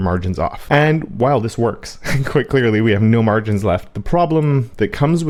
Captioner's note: laugh